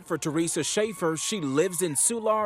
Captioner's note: cheering